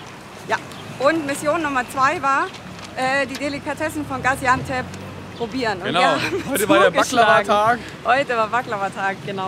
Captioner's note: laughs